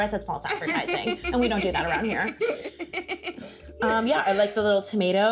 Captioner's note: laughing